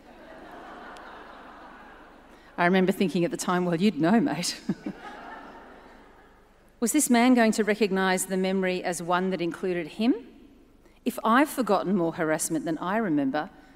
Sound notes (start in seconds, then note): 0.0 audience laughs; 4.6 chuckles